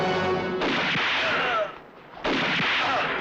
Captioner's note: gun firing